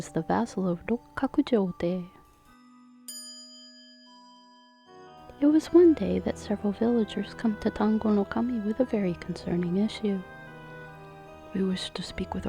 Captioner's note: small chime